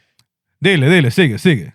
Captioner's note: speaking Spanish